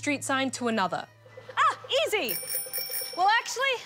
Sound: dings bicycle bell

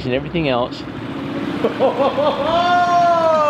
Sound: laughing; clapping

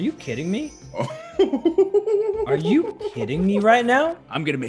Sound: laugh

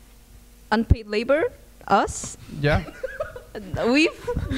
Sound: laughs

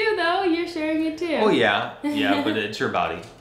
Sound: laughs

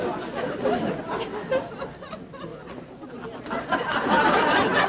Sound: audience laughter

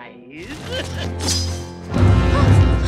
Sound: chuckles; dramatic music

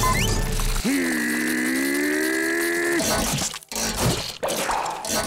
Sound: growling

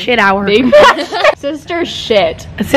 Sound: laughs

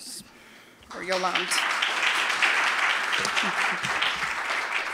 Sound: applause

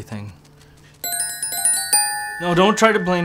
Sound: bells ringing

